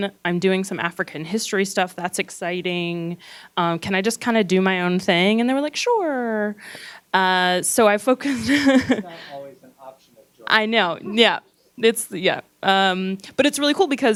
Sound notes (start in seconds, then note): 8.2 laughs; 9.4 gentle speaking